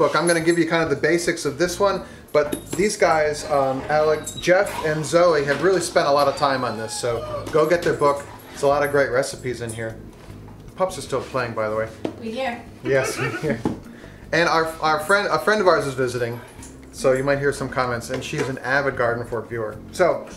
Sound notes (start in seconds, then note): 12.8 laughs